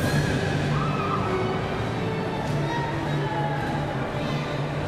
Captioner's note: cheers and applause